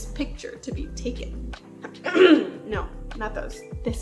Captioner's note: clears throat